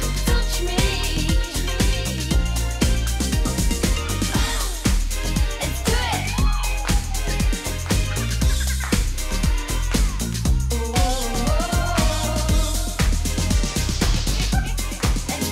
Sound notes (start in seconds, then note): 5.3 singers cheering; 7.7 singers chuckling